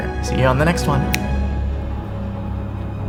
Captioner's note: fingers flick; inspiring music continues